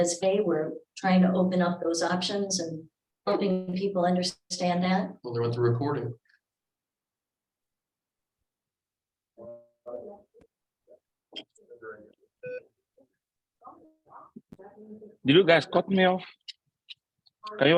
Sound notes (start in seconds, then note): 9.6 group muffled chattering; 12.4 computer program beeps